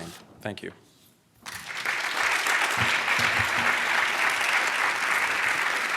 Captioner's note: applause